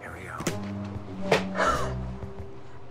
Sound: surprised inhale

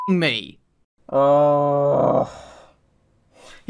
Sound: groan

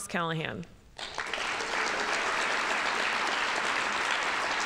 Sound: audience applauding

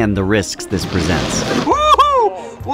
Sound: blender whirs

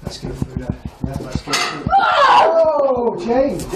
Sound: metal knocks; yelling

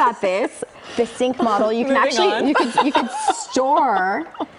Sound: laughter

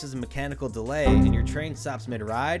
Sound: Windows error sound

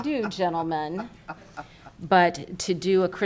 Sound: laughing

